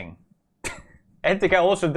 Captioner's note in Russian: хах